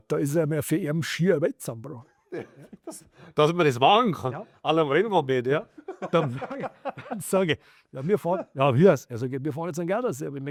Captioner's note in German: gelächter